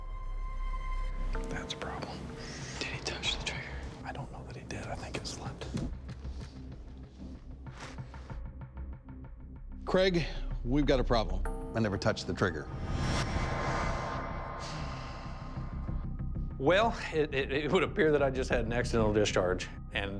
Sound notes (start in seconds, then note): 2.1 whispering; 14.1 exhales